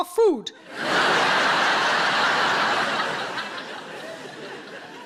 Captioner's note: audience laughing